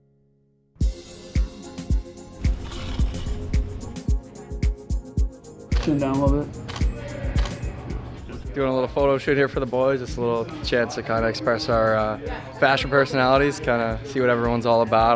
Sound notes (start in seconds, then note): 0.7 upbeat music; 7.3 camera clicking